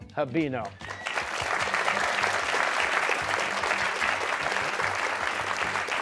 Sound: cheers and applause

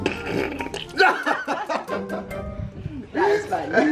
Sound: laughing

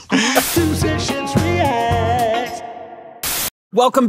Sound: they laugh; white noise

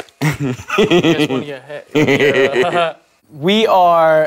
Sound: laughs

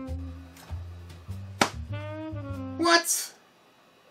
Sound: slapping of arms

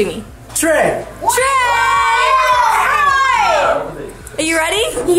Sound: everyone cheers

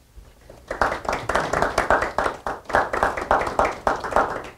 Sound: applause

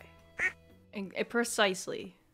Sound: qUAcK

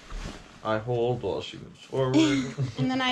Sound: laughs

